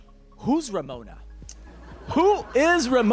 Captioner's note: laughter